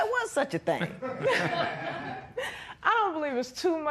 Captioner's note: laughter